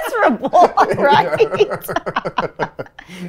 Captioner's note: laughing